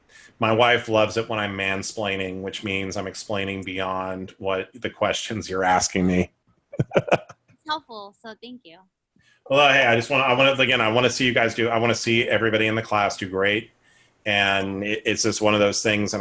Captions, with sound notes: >> My wife loves it when I mansplaining. Which means I'm explaining beyond what the questions you're asking me [laughs]. >> It's helpful. So thank you. >> Well, yeah, I just want to -- like, you know, I want to see you guys do -- I want to see everybody in the class do great. And it's just one of those things.